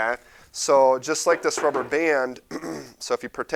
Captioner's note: throat clearing